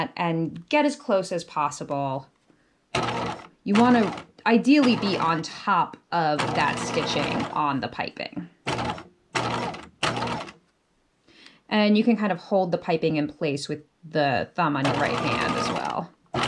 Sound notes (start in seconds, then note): 9.3 sewing machine clunking